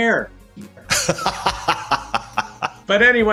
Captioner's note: laughing